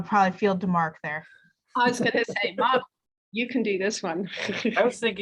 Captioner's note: chuckles